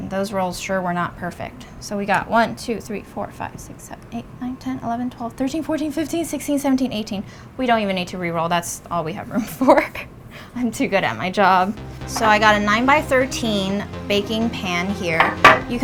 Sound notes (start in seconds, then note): 10.1 laughs